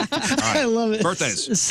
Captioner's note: laughing